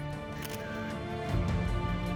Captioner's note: camera shutter clicks